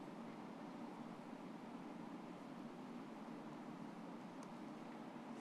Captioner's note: film static humming